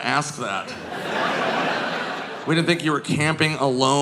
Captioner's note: audience laughing